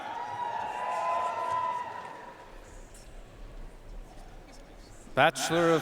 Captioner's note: audience cheering and applauding